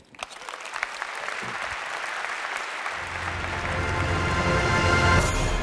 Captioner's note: applause